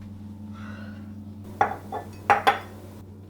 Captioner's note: mugs clatter on counter